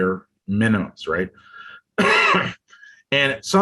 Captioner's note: coughs